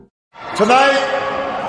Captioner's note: sustained cheers, applause